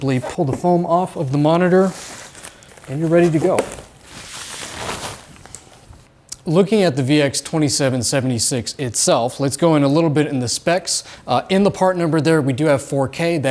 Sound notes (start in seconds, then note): 2.8 cover scraping